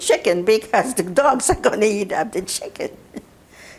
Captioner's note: laughing